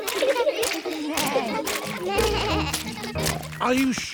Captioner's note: bleating